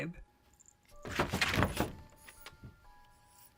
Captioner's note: scratching on paper